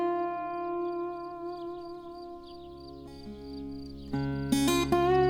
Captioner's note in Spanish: grillos